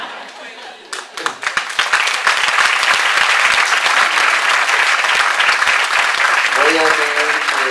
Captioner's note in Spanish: Aplausos